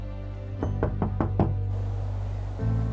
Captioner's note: knocking on door